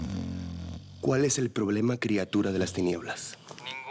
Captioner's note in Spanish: Ronquidos